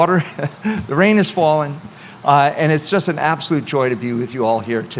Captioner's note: chuckles